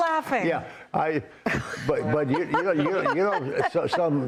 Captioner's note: laughter